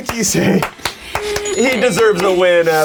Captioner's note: clapping